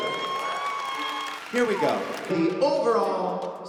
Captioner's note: applause, cheering